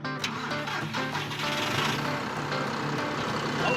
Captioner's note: engine starting